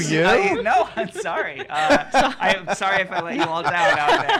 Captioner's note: laughs